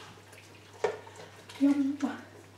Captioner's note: stirring